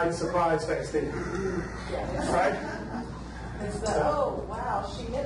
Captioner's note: gasps